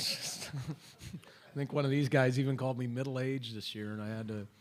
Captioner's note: laughter